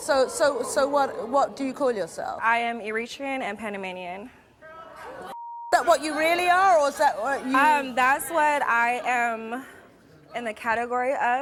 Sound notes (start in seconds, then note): 4.1 moans from crowd